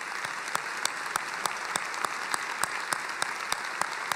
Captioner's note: applauding